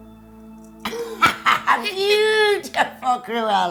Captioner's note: both laughing